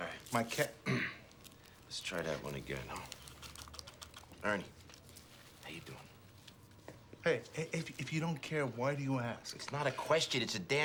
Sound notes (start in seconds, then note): 0.8 clears thro